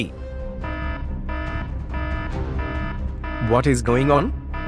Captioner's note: alert sounds